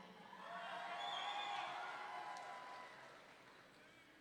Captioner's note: audience cheering